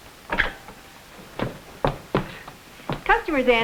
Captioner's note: door clicks